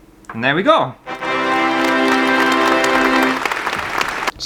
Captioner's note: applause